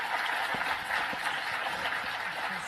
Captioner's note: applause